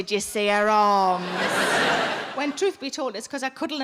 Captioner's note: audience laughing